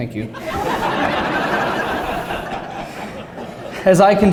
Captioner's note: laughter